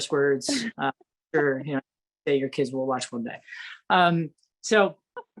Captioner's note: laughs